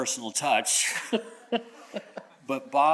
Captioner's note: chuckles